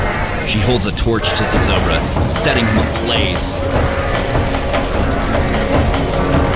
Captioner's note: chanting